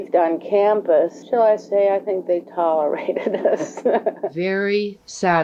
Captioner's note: laughs